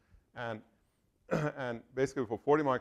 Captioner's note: cough